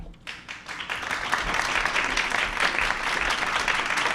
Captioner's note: applause